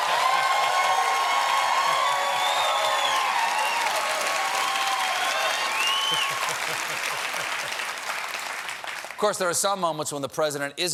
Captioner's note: applause